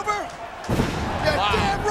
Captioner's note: bodies slamming